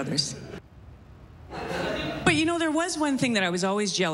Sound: laughter

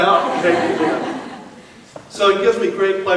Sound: laughing

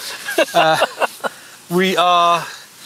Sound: laughs

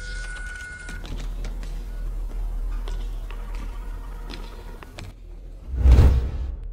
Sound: door Opens; steps Walking

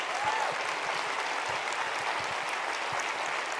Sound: applause

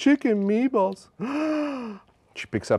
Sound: gasps

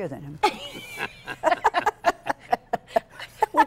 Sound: laughter

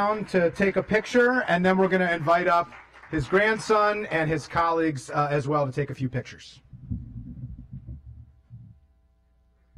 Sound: clapping

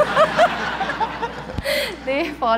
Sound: laughter

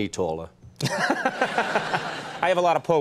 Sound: laughter

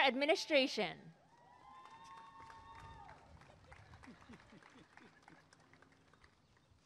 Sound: applause and cheering

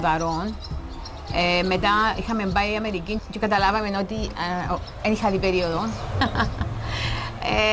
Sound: laughs

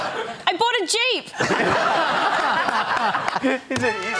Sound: laughter

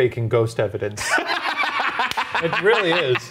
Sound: laughing

